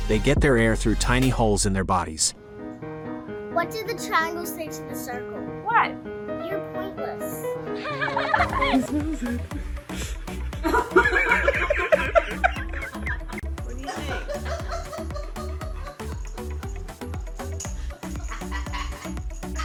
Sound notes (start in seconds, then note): 2.4 intriguing music; 7.7 children laughing; 10.6 people laughing; 14.4 fun music